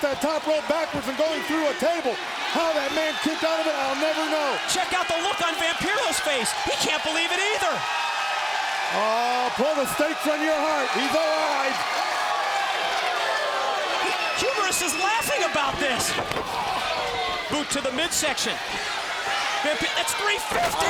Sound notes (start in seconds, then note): 9.5 crowd chatter